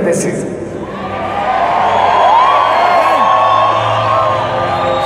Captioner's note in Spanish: aplausos